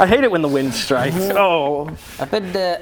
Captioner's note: pffffp